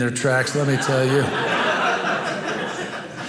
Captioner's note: audience laughing